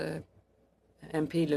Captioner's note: speaking French